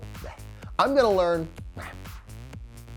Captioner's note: scoffs; scoffs; bright electronic music continues